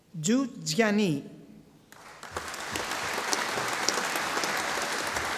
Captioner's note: audience applauding